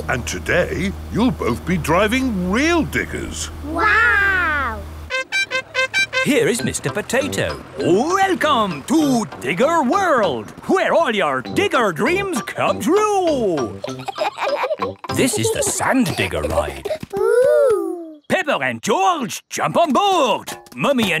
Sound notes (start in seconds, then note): 13.5 kids laughing